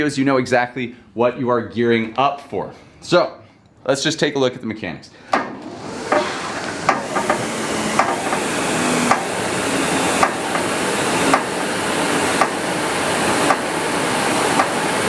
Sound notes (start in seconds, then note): 5.3 SkiErg whirring; 5.4 handles clattering